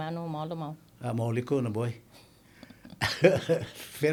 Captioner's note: laughing